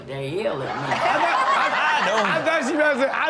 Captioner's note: Chanel laughs